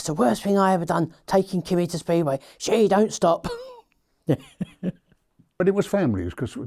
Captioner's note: laughs